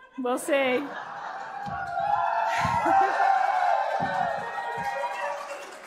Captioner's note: cheering